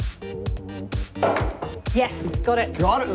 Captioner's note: pop